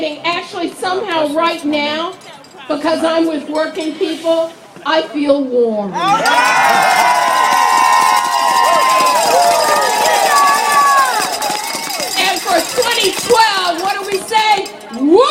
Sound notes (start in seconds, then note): 9.8 applaud